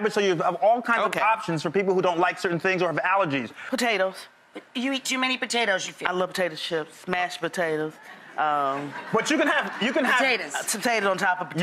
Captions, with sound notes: so you can have all kinds of options for people who don't like certain things or have allergies. Potatoes. You eat too many potatoes, you feel? I love potato chips, mashed potatoes. (audience laughs) You can have-- Potatoes. Potato on top of potato.